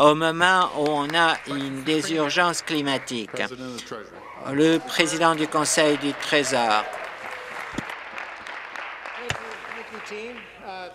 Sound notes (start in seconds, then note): 4.2 some Applause